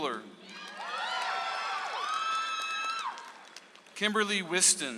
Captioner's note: audience applauds